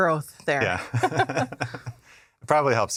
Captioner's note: laughter